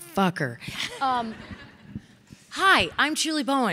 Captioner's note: audience laughing